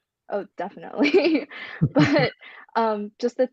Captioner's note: laughs